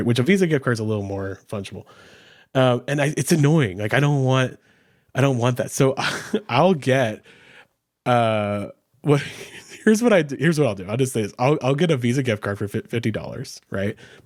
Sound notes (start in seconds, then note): 6.0 chuckles; 9.4 chuckles